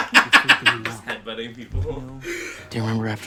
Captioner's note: laughter